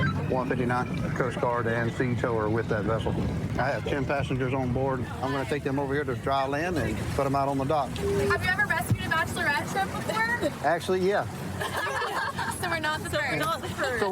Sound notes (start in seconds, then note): 11.5 laughter